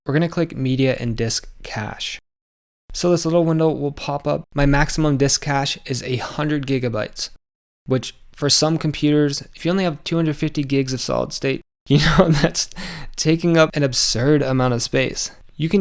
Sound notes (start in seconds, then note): 11.9 laughs